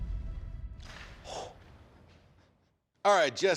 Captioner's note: forceful exhale